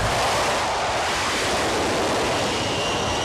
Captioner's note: plane noise